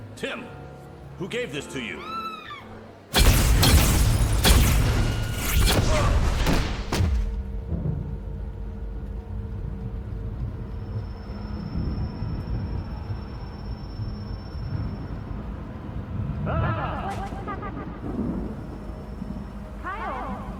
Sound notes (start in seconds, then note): 2.0 woman screaming; 3.1 explosion blasting; 7.9 dramatic music